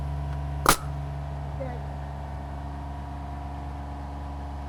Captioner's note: tool sputters